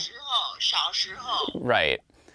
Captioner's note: mom speaking Mandarin